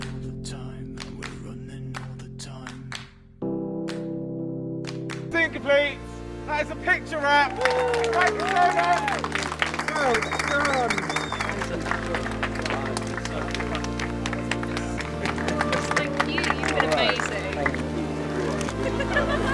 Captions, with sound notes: That is a picture wrap! [Cheering] Well done! [Clapping] Thank you! You've been amazing!